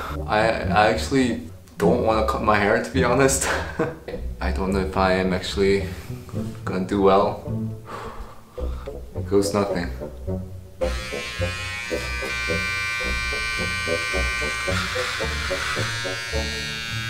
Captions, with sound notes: I actually don't wanna cut my hair to be honest. I don't know if I am actually gonna do well. Here goes nothing. (clippers buzzing)